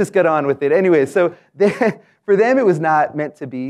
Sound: laugh

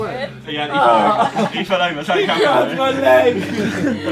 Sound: Simon shouting

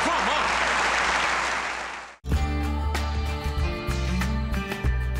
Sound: laughter

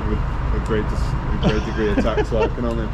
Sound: chuckles

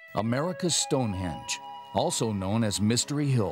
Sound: voiceover

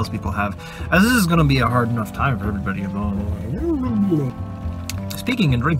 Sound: mumbles into coffee

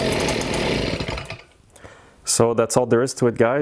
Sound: engine shuts off

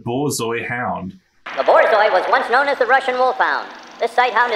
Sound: sped-up announcer

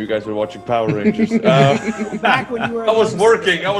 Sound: laugh

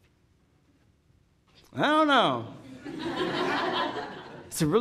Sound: audience laughing

